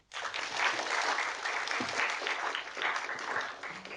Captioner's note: audience applauding